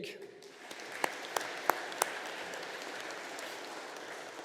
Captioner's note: audience applauding